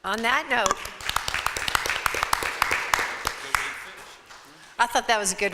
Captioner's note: audience applauding